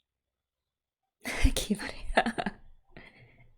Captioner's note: laughs